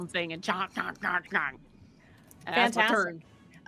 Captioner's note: mimics chomping